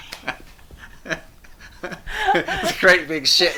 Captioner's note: both laughing